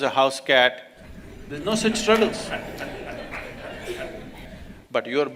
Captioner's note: laughter